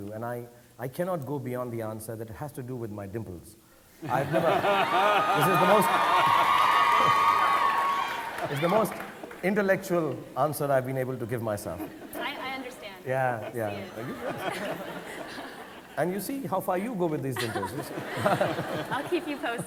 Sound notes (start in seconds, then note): 4.1 laughing; 4.1 audience cheering